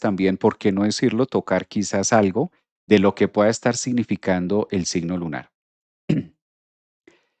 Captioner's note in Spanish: carraspeo